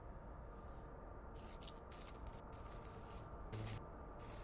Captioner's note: zapping